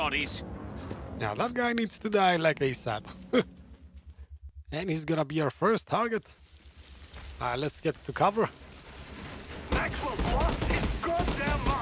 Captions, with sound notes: Now, that guy needs to die ASAP [laughs]. And he's going to be our first target. All right, let's get to cover.